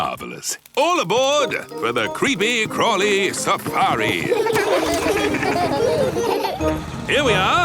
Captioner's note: laughing